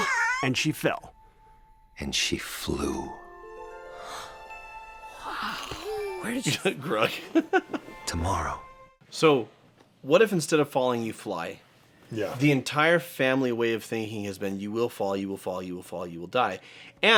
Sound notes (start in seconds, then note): 5.1 Croods gasp